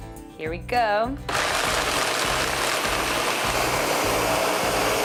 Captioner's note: blender running loudly